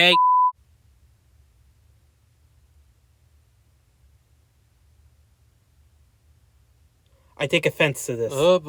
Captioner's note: dead Silence